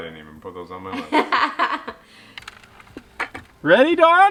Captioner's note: laughs loudly